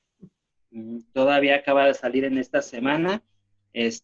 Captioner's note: speaking spanish